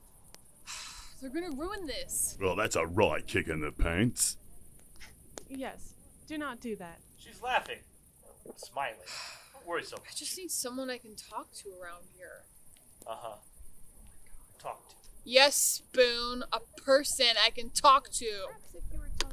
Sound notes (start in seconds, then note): 0.7 sigh; 2.4 changing voice; 4.7 laughs; 9.0 sigh